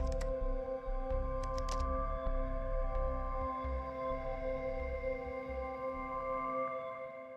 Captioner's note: keyboard clacking